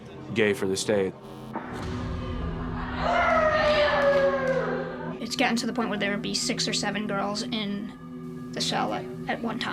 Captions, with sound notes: "gay for the stay." (inmates talking and yelling) (inmates talking and yelling) - It's getting to the point where there will be 6 or 7 girls in the cell at one time,